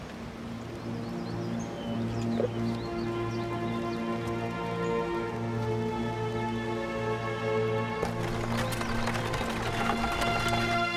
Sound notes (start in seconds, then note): 1.5 dramatic orchestral music; 8.0 horse trotting; 10.2 cart pulling away